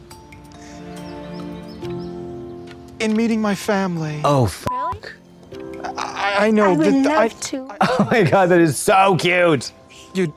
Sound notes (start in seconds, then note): 5.0 beep